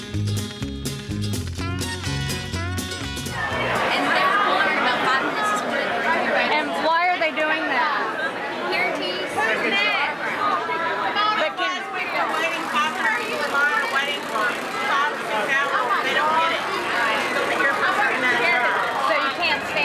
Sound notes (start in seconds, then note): 11.6 crowd noise